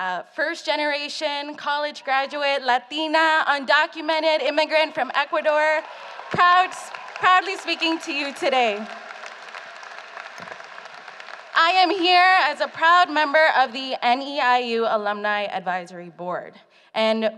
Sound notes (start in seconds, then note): 9.3 applause